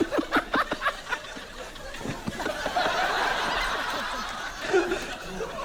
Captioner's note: continues laughing